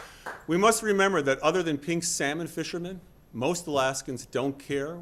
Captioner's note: applause